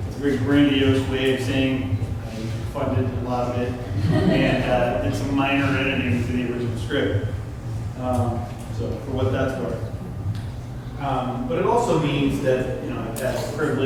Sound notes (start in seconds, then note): 3.9 laughter from crowd